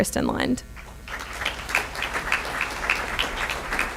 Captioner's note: applause